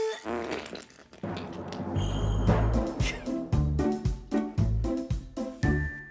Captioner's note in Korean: 방귀 소리